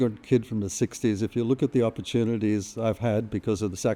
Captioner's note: none